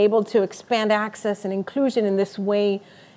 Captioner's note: none